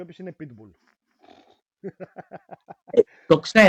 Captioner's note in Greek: γέλια